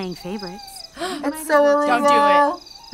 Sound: gasps

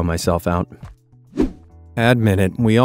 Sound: air whooshing

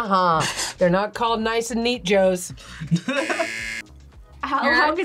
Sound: buzzer rings

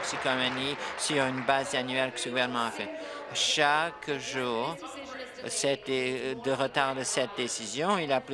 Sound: applause

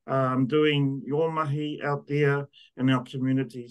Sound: speaks in te reo Māori

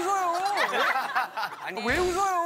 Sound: laughing

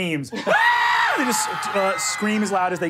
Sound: screams

